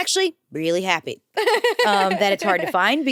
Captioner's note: laughs